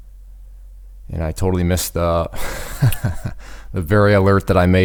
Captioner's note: laughing